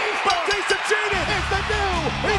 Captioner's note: bell rings